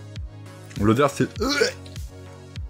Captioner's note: retches